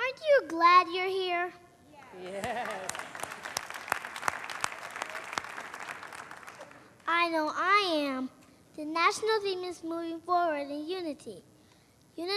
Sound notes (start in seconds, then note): 2.2 applause